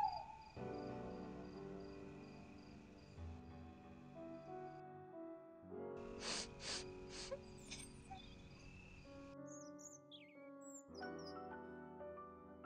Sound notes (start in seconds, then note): 6.1 sniff